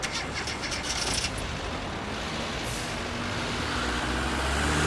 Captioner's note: car engine revving